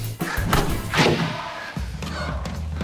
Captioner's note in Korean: 벌컥